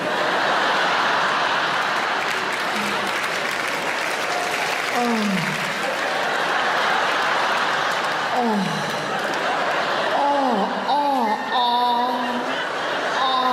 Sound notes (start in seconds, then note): 0.2 audience laughing; 3.5 audience laugh and clap; 5.7 audience laughing; 10.7 audience laughing